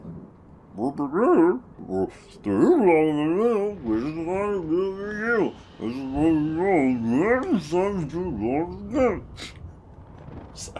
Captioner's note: rereads the text but in Sir Daniel's doofy voice